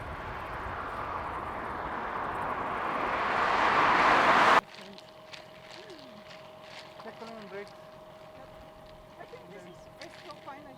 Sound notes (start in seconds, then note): 0.0 car whooshing; 5.3 team chattering